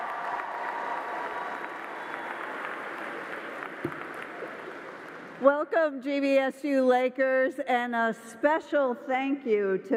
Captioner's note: cheering